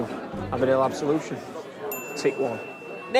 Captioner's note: pinging